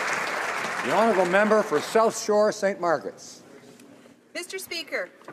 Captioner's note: applause